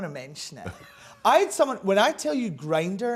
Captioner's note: laughs